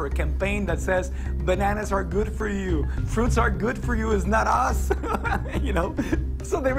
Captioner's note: laughs